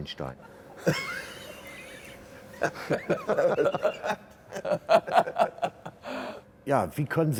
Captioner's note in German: Originalton: Lachen